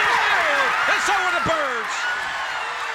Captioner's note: crowd cheering